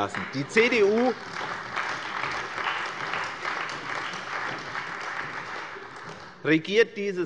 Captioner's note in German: Beifall bei der CDU